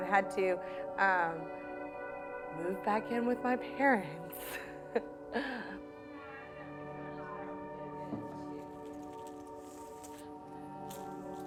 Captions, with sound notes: Had to move back in with my parents. (laughs) (people chattering)